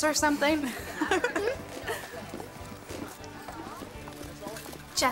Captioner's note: Renata laughs